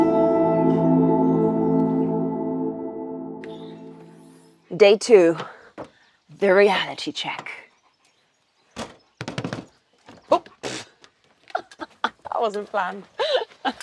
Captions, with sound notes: Day two, the reality check. (hands tapping) Oop, (laughs) that wasn't planned.